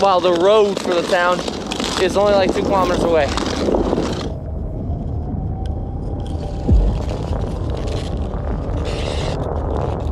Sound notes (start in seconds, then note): 3.8 wind howling